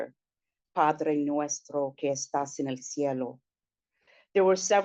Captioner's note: speaking in spanish